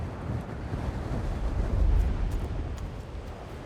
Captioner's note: wind howls